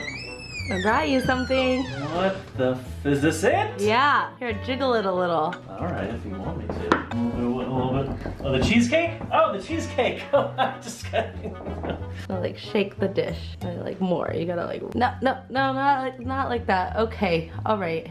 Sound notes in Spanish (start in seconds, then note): 10.2 risa